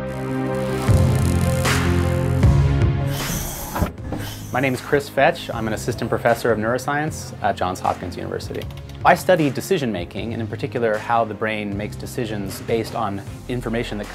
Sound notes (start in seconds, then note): 0.3 electrical buzzing sound; 3.0 hydraulic noise